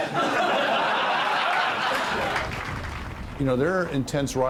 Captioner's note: group laughing